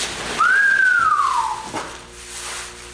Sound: whistles

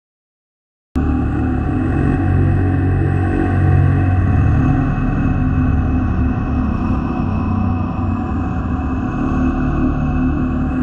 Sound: scary sounds

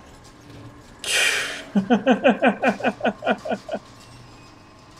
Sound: laughs

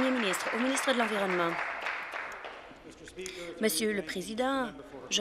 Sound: applause

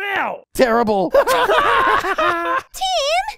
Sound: loud laughing

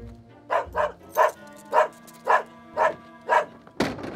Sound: dog barks

